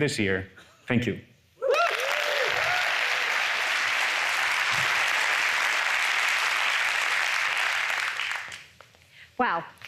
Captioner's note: applause